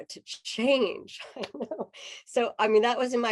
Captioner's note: laughter